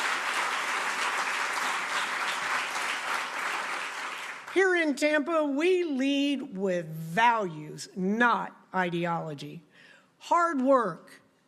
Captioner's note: applause